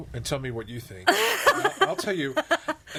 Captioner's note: all laughing